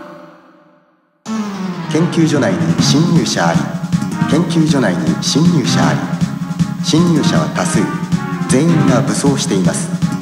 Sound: alarm

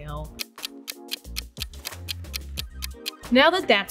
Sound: clock ticking

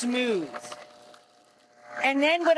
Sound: blender whirs

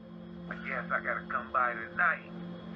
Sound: speaker phone

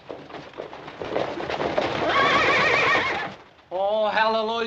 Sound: horses galloping, neighing

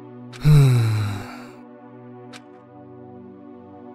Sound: sigh

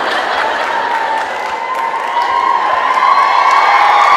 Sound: audience applauds

